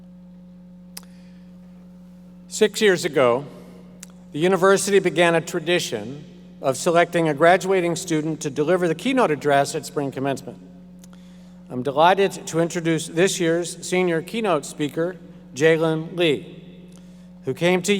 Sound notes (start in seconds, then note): none